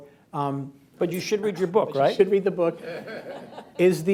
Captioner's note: laughter